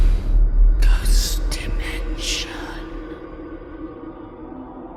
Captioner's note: ghostly Voice